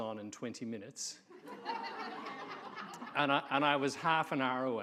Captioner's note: audience laughing